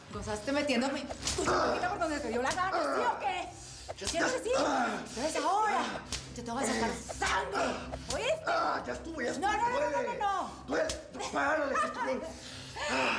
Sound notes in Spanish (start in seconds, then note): 4.0 quejidos